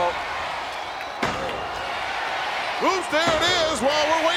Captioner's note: applause